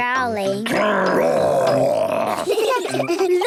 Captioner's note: growls; giggling